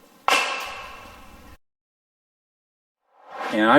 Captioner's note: knock whacks; air swooshes